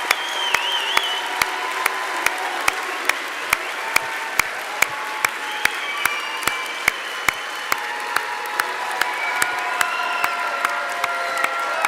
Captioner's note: applause; cheering